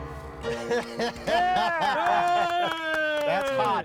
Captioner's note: group cheering